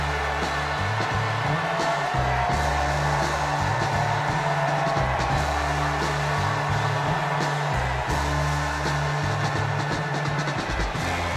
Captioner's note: cheers and applause